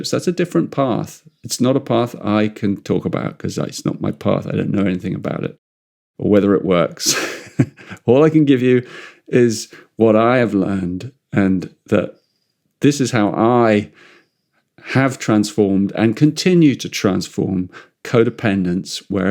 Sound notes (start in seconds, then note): 7.0 laughs